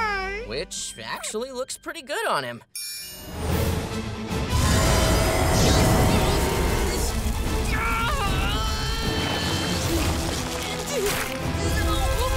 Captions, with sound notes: Which actually looks pretty good on him. [grunting]